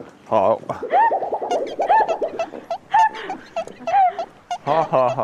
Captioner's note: honk, honk, honk